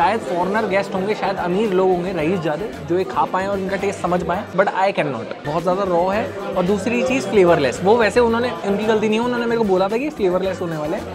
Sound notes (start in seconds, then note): none